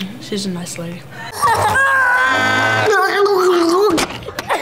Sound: laughter

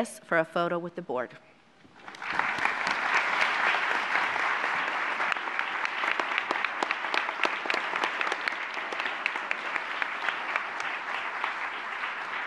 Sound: applause

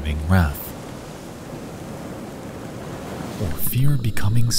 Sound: waves crashing

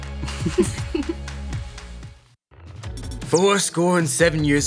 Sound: laughing

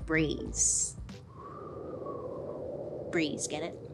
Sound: air whistling

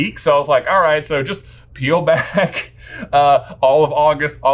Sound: laughs

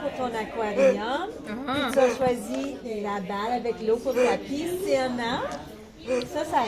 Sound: people in video speaking French

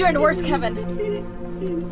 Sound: whimpering

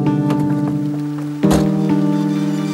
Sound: car door open & slammed shut

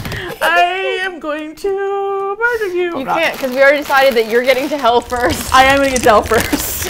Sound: bag crinkling loudly; singsong; laughs

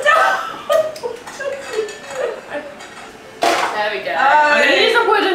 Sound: laughs

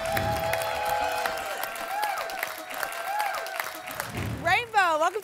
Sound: applause and cheering cont

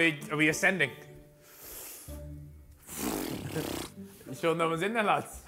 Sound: heavy Breathing

